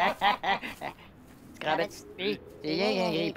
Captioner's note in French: Rires